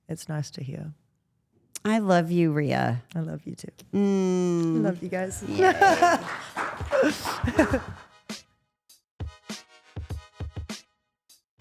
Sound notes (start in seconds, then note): 4.8 Rhea laughs; 6.7 person off camera claps; 8.4 upbeat music plays